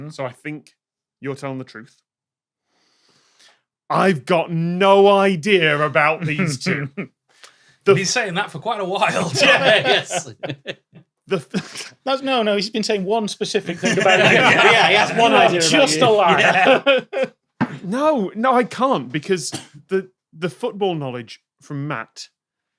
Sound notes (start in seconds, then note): 6.4 snickers; 7.9 group laughing; 11.5 cracks up; 16.6 laughs